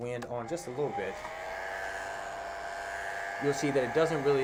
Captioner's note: dryer blows